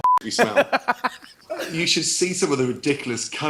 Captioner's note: laughs